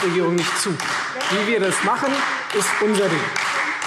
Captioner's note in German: Beifall